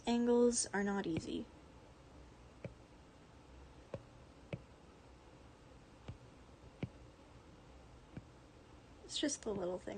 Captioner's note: AC sounds continued